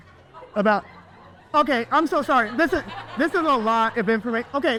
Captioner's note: audience laughs